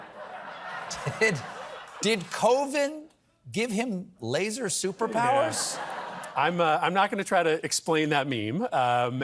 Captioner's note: laughter